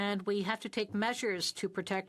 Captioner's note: speaking French